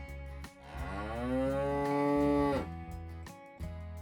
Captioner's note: cow Moo